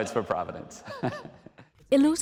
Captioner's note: laughter